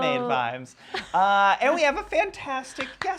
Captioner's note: laughing